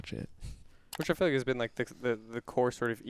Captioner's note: computer mouse clicking